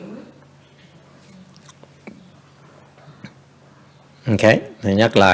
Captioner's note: silence